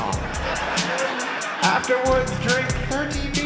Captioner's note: laughter